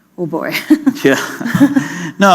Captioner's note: chuckle